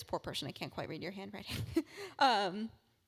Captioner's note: laugh